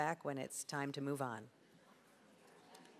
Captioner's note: audience chatter